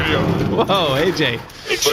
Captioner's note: dragging something heavy